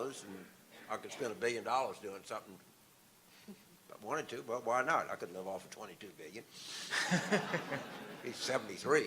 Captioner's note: audience laughter